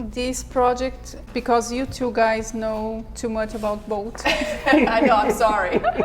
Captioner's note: laughs